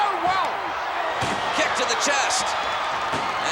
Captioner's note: body thuds